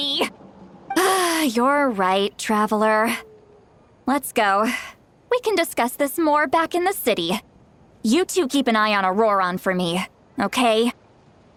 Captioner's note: sigh